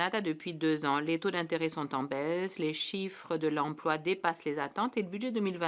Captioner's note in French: voix de l'interprète